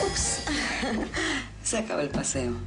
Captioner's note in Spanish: Ríe